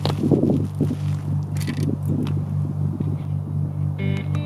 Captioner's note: bicycle rides; inspirational music